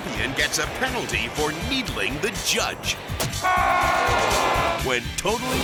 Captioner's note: judge yelling